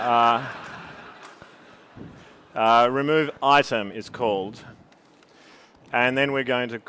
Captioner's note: laughter